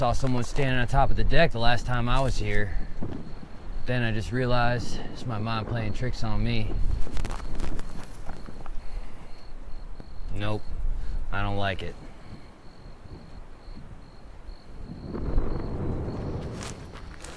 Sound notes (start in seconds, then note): 0.0 footsteps crunching; 7.8 footsteps crunching; 9.1 crickets chirping; 13.1 crickets chirping; 15.5 wind rustling; 16.0 footsteps crunching